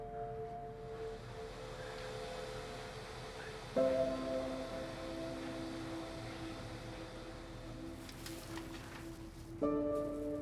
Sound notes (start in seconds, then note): none